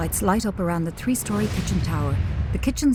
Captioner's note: dramatic beats; elevator humming